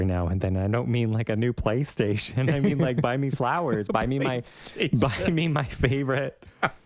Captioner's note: laugh